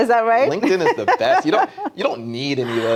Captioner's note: laughing